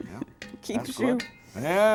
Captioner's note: chuckling